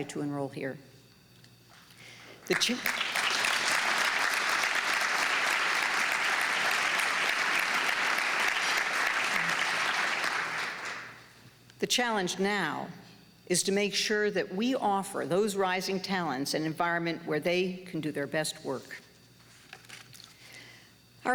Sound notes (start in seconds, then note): 2.8 applause